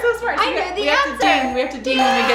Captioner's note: dinging